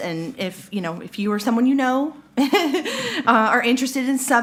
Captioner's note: laughs